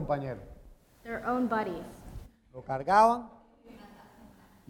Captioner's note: speaking in Spanish